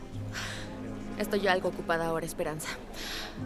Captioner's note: Resopla